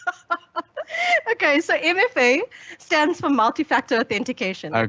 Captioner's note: laughing